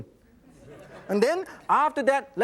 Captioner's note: audience laughs